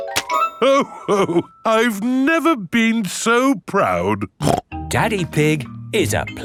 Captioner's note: snorts